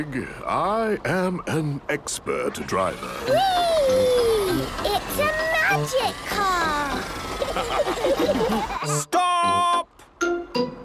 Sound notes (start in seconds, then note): 7.3 laughter; 7.5 squeaking